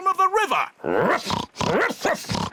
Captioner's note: oinks; barks